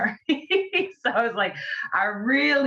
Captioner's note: laughs